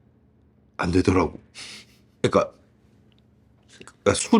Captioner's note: laughs